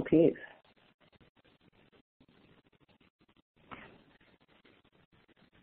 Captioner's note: silence